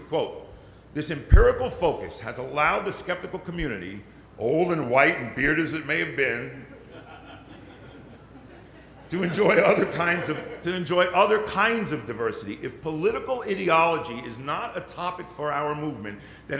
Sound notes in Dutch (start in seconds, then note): 6.6 Licht gelach